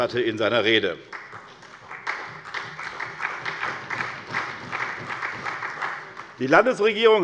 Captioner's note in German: Beifall bei der SPD und der FDP